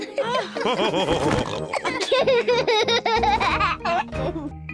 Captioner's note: laughs; all laughing